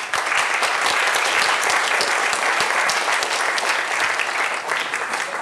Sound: applause

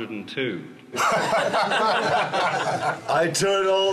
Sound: laughing

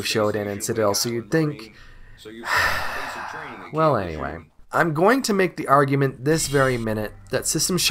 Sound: sigh

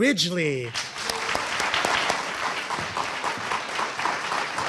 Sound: audience applauding

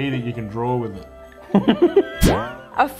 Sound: laughs

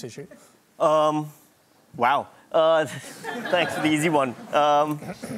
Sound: laughter

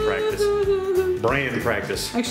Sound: crying

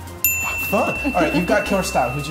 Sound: bell dinging

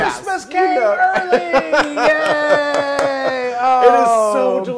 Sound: laugh

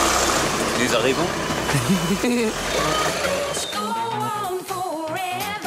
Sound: speaks foreign language

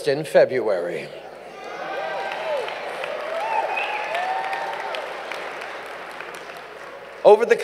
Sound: cheers & applause

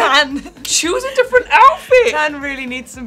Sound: alexa laughing

